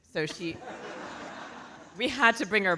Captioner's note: audience laughing